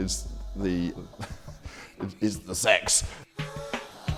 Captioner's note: laughs